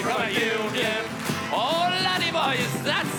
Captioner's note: whoops and Cheer